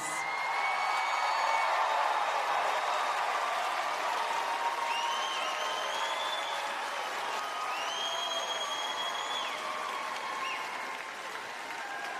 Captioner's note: applause and Cheering